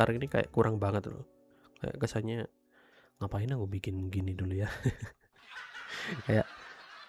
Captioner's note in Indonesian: tertawa